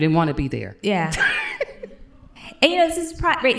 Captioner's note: laughs